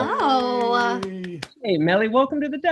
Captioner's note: applauding and cheering